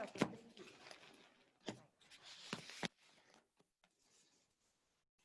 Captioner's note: background chatter